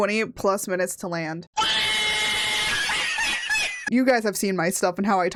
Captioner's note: cat laughing meme sound